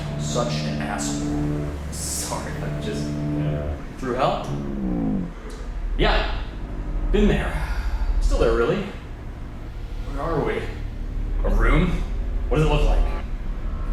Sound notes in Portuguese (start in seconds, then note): 11.7 snidely